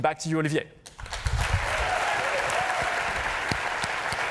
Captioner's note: cheers and applause